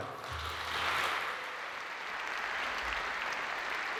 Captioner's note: audience applauds